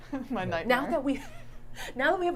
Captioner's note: laughs